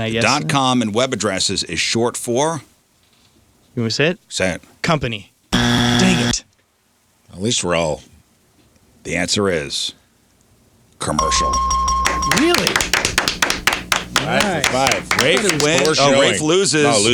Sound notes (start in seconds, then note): 11.2 bell dings; 14.2 clapping